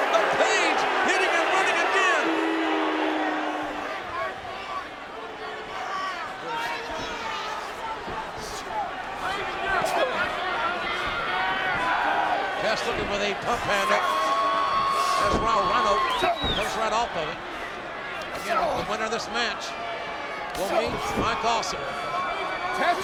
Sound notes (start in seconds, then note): 2.6 audience booing; 9.9 wrestlers grunting